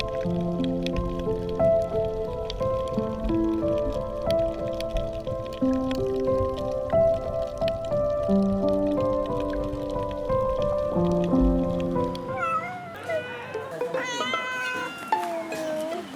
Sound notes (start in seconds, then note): 12.2 cats meowing